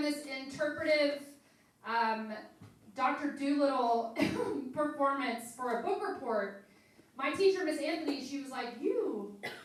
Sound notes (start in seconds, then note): 4.2 coughs